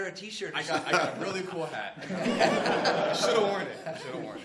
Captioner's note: laughter